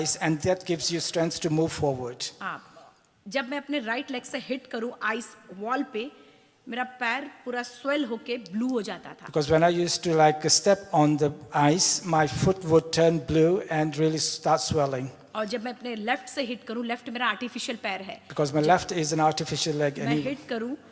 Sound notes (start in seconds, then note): 2.4 speaks foreign language; 15.1 speaks foreign language; 20.7 speaks foreign language